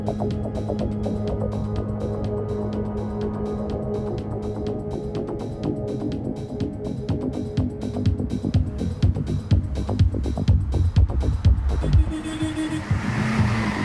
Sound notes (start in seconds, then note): 11.8 horn honking